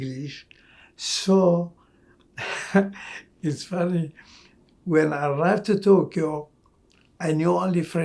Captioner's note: laughing